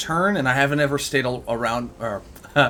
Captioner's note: laughs